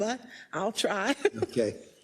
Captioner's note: laugh